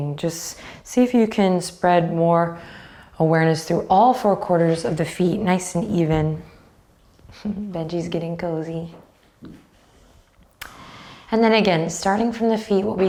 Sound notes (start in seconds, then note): 7.3 chuckles